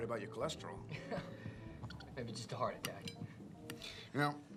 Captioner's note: laughs